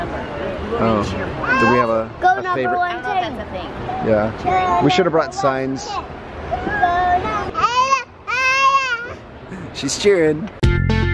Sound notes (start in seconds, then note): 8.2 babbling; 10.6 upbeat electronic music